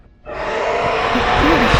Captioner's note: screech